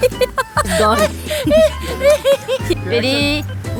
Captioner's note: laughing uncontrollably